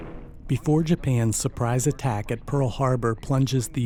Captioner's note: voiceover